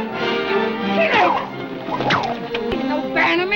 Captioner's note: whip cracking